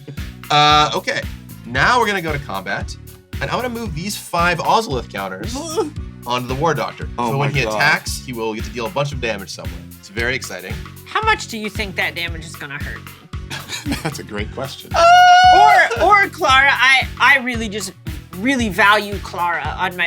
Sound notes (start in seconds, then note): 15.0 laughs; 15.1 sing-song voice